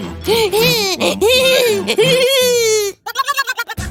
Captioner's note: sounds of euphoria and joy